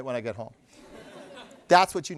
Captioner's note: laughter